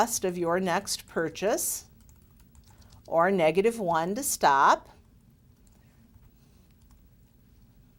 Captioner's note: typing